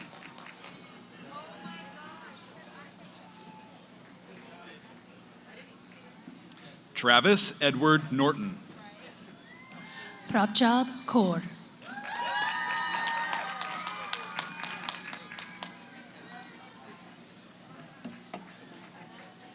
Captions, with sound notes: >> Oh, my gosh. [ Background conversations ] >> Travis Edward Norton. >> Prabjot Kaur. [ Cheering ]